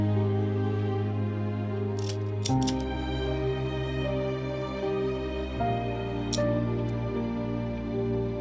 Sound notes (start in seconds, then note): 0.5 gentle music continues; 2.3 lighter flicking